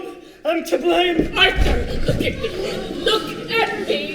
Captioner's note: all murmuring